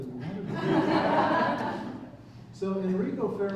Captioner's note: laughter